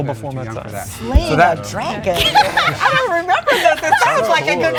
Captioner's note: laughing